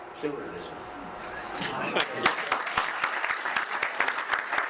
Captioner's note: audience applause